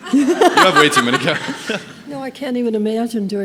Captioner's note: audience laughing